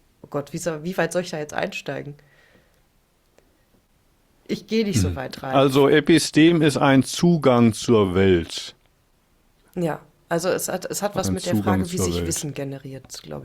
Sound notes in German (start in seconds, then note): 4.9 räuspern